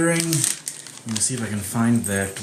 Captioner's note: paper crinkles